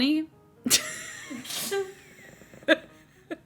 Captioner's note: laughs